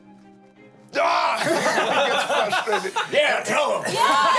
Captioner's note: everyone laughs